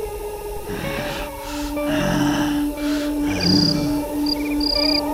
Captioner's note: Groden grunting